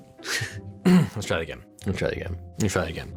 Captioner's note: laughs; clears throat